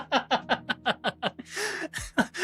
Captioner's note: laughs